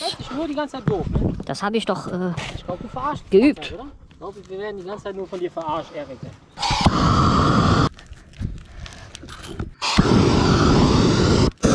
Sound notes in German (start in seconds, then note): 6.6 brennerrauschen; 9.8 brennerrauschen